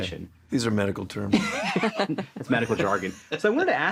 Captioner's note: both laugh